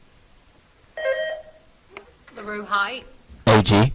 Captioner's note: buzzer trills